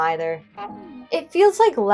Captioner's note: honk